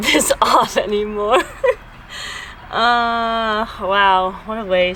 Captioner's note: laughs